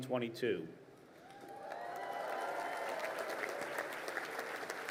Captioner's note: crowd applauding